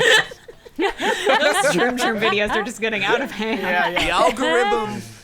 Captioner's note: players laughing